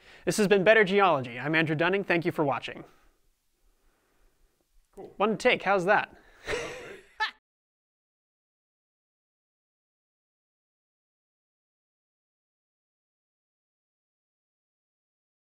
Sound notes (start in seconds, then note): 6.4 laugh